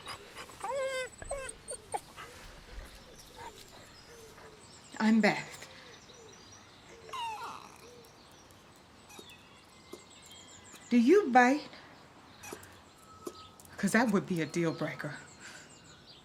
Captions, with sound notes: [whining] I'm Beth. [whining softly] Do you bite? 'Cause that would be a deal breaker.